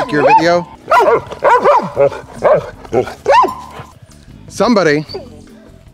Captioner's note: dogs barking